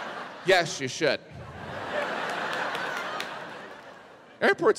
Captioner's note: audience laughs